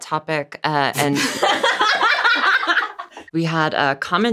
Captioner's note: everyone laughs